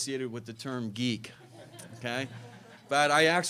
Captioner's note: laughter